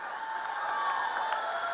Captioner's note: cheers and applause